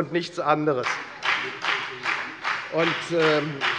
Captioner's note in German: Beifall bei der FDP